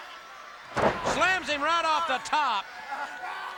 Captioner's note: body slamming; audience cheering